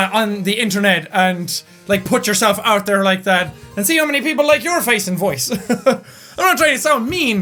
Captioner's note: chuckle